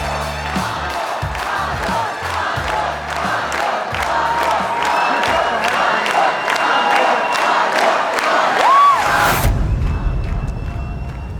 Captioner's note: applause